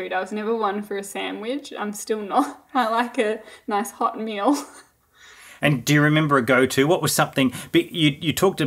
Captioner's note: laughing